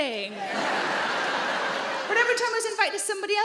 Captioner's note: audience laughing